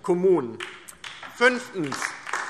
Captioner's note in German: Beifall DIE LINKE